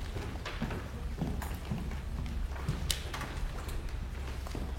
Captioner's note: footsteps tap